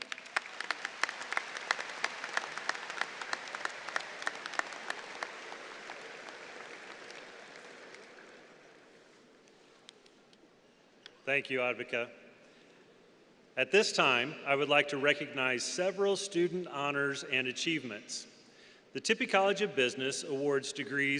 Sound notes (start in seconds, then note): 5.8 applause